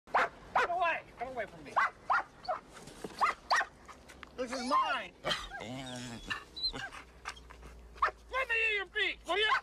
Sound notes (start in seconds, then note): 0.1 barking; 1.7 barking